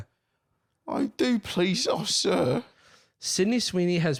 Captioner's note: extra Britishly